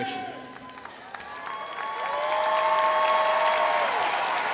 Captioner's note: crowd applauds